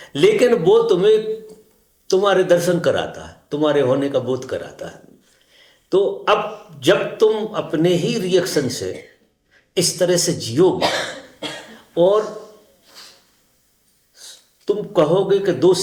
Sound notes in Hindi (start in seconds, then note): 10.7 खांसने की आवाज़; 12.3 नाक से की जाने वाली आवाज़